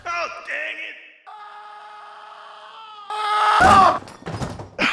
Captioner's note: distant screams of falling; smack